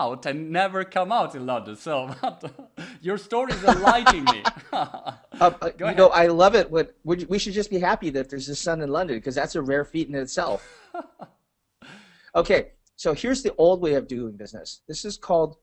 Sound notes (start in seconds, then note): 3.4 chuckling; 3.4 laughter; 10.4 laughing